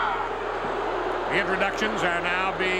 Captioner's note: crowd boos